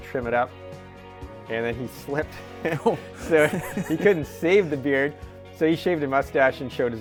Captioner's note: laughs